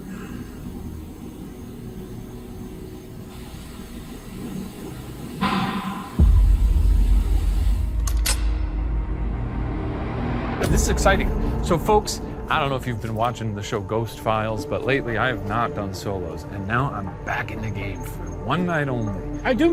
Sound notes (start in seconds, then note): 5.4 banging